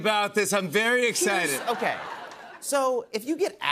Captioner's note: laughter